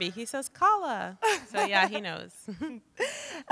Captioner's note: laughs